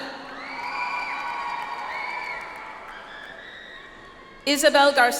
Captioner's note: audience applauds